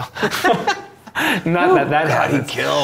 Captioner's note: laughing